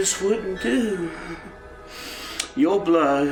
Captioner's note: kiss